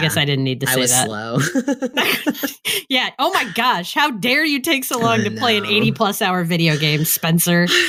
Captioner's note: jokingly